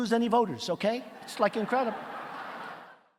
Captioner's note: audience laughing